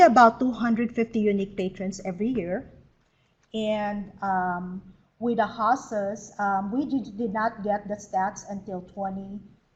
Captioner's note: stutters